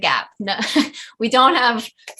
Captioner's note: giggles